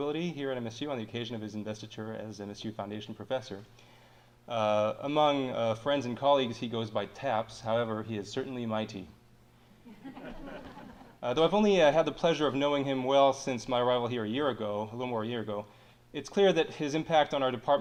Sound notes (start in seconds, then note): 9.8 audience chuckling